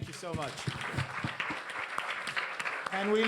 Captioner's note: applause